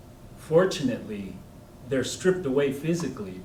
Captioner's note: none